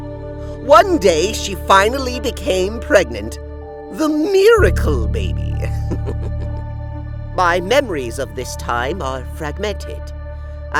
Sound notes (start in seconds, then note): 5.7 chuckle